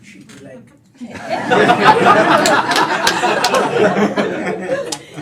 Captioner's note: laughter